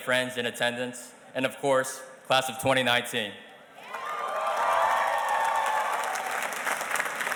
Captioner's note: audience cheers and applauds